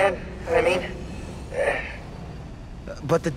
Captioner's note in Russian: выдох